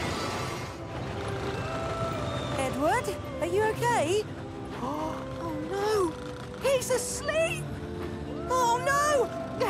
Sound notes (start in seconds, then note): 1.1 snores